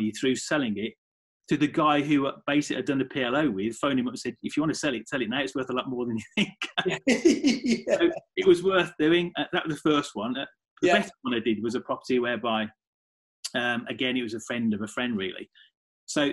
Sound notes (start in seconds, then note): 6.1 laughing